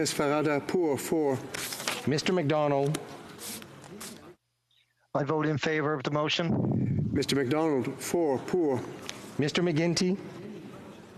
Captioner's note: speaking FRENCH